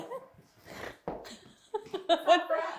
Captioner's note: giggling